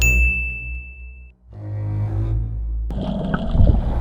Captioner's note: ding noise